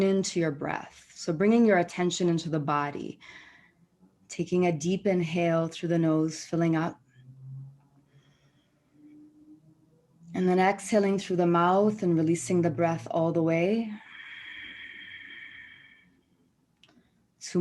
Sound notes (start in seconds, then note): 13.9 exhales